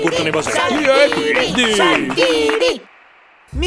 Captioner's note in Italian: applausi